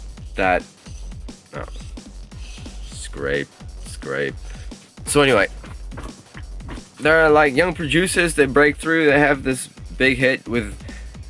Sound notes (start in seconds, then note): 0.7 scraping noises outside